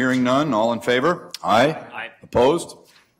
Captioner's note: multiple voices